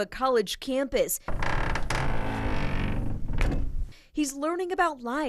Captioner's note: bus door creaks